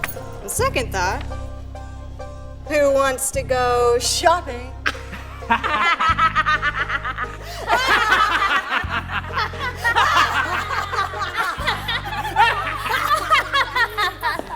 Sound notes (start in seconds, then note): 4.7 everyone laughs; 7.5 everyone laughs hysterically